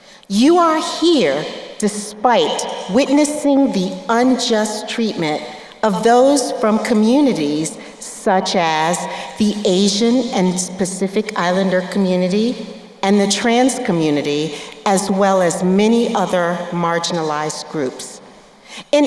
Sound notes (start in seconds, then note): none